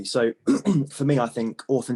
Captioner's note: clears throat